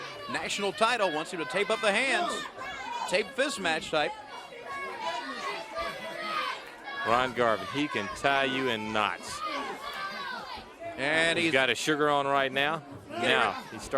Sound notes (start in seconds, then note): 2.1 crowd chatter; 4.8 crowd chatter